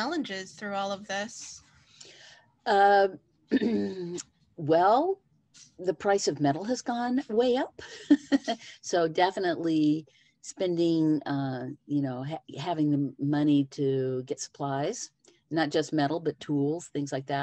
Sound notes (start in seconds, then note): 3.5 clears throat; 7.9 chuckles